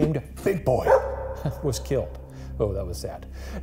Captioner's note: dog barks